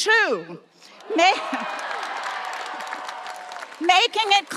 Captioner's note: audience applauding and cheering